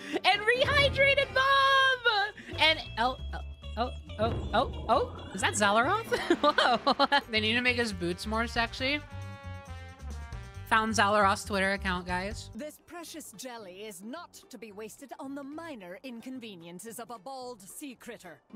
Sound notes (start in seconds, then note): 6.0 laughter